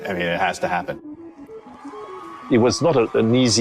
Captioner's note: crowd cheering